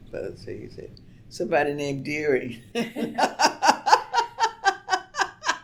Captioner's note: laughs